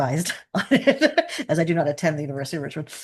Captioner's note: laughing